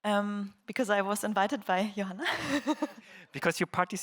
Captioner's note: laughs